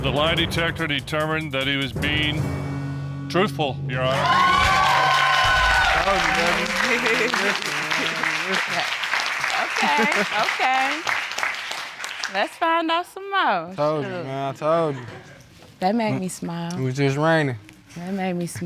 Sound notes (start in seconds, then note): 4.8 audience cheering